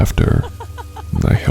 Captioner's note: creepy laughing